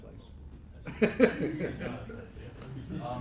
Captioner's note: laughing